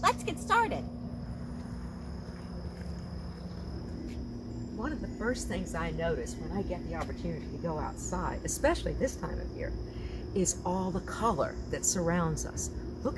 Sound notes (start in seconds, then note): 1.5 crickets chirping